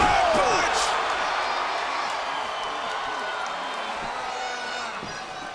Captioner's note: audience cheers